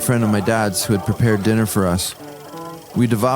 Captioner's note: people talking